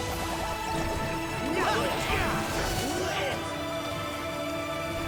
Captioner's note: battle cries